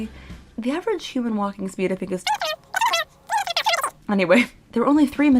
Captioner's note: sped-up talking